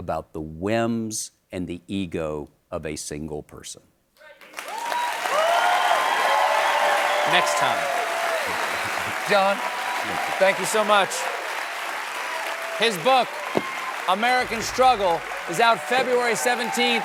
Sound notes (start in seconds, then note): 5.2 applause